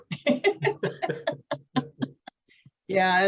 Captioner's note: chuckling